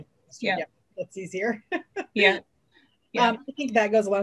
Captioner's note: laughs